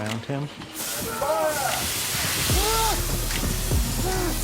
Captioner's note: kit yells